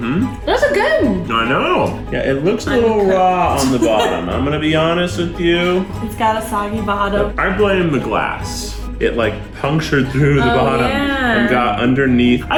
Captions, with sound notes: - Mm-hmm. - Those are good! - I know! Yeah, it looks a little raw on the bottom. (laughing) I'm gonna be honest with you. - It's got a soggy bottom. - I blame the glass. It like punctured through the bottom-- - Oh yeah! - And got underneath.